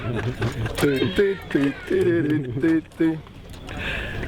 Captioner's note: humming tune